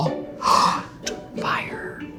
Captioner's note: gasps